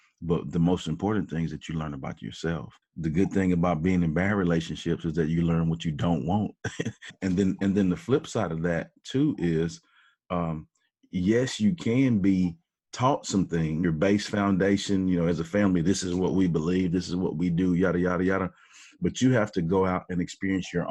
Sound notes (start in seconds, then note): 6.5 laughs